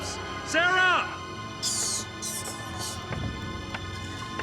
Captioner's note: squeaks